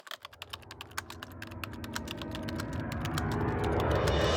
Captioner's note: typing sounds